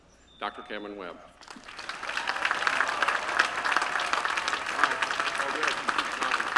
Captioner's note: applause